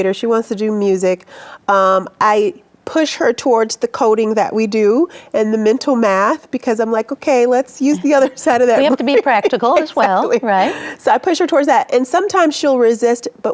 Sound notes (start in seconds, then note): 7.8 laughing